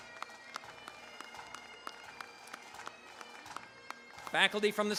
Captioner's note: applause